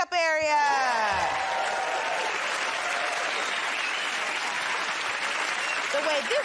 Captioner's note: cheers and applause